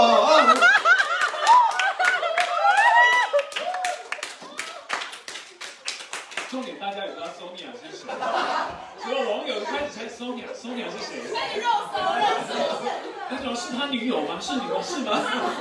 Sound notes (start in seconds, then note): 1.9 everyone laughs and claps